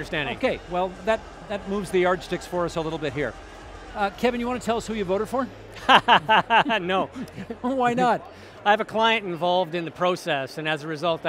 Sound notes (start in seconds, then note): 5.8 laughing